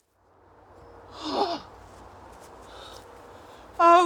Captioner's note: sighs